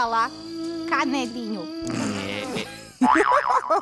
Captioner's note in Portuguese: riso; gargalhadas